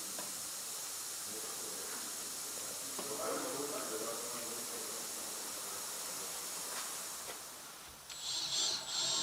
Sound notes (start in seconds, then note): 2.7 quiet babble of voices; 8.1 drilling noises